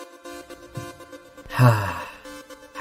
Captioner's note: sigh